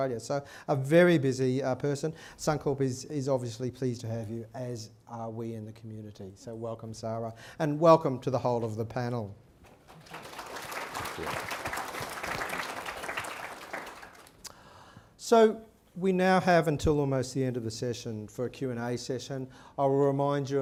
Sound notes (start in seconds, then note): 12.5 applause